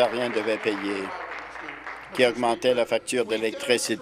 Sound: applause

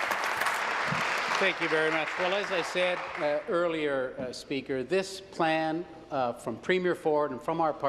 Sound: applause

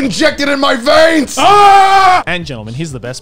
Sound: screaming

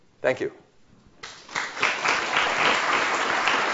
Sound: applause

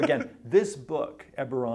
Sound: interviewer laughs

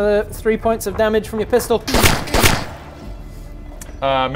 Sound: pew pew

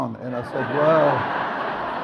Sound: audience laughs

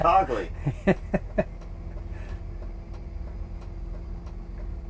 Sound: laughing

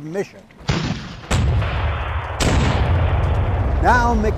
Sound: cannons blasting

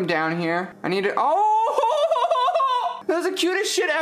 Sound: awwing very loudly

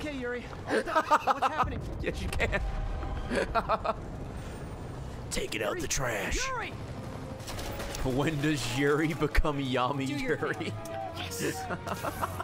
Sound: laughs

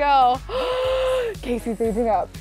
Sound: gasping

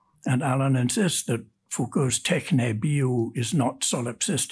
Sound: speaks in Greek

